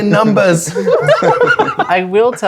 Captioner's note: players laughing